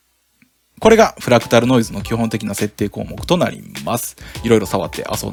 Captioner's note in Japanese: フラクタルノイズ